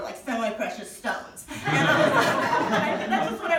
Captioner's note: audience laughing